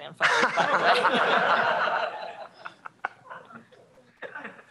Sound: laughter

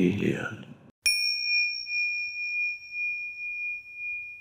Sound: bell dinging

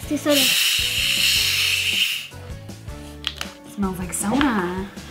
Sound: soda hisses

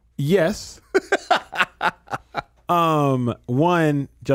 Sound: Justin laughing

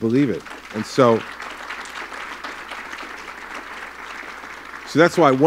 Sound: applause

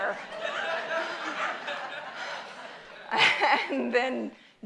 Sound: audience laughs

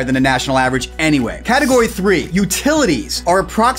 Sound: graphics swish

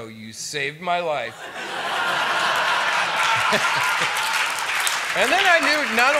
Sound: applause

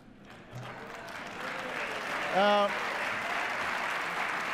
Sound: scattered laughter, applause

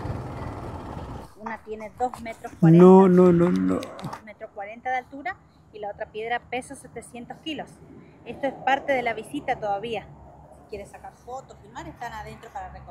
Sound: speaking in Spanish

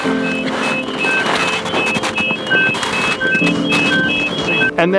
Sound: footsteps crunching

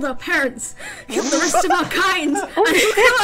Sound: pfffffft

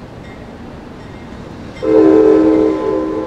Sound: bell clangs

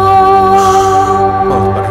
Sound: sighs

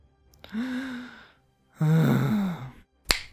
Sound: sigh

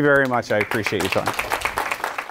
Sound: audience applause

